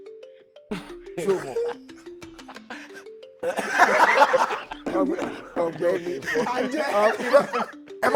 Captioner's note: everyone laughs